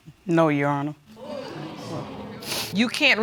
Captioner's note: audience exclaiming